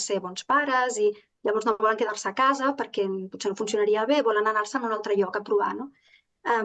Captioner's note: continues speaking in Catalan